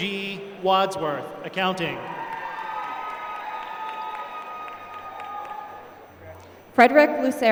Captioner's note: applause; applause